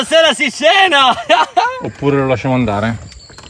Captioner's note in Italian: risate